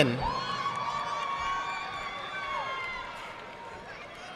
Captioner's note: audience clapping